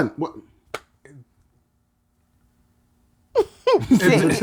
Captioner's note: clapping; laughter